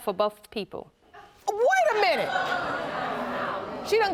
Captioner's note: audience laughs